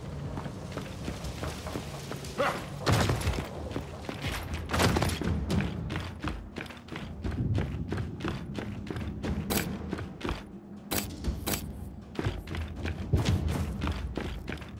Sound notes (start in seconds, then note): 3.0 footsteps